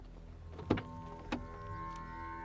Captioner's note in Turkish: Kapı Açılıyor